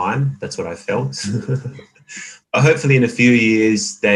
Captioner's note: laughs